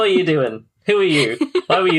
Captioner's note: laughs